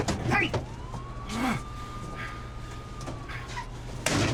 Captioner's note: police sirens; closes truck door